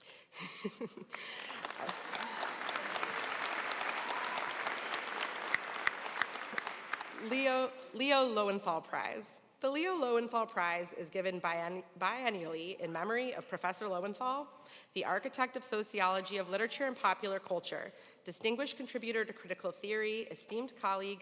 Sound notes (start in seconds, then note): 1.1 audience applauding